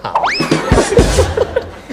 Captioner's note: laughter